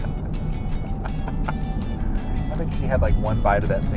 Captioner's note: laughing